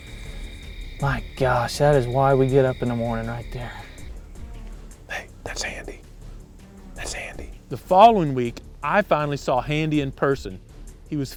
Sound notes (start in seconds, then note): 4.6 whispering